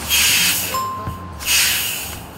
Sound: announcement bell chimes

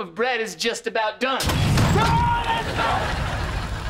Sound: screams

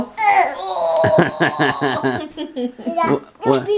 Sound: laughs

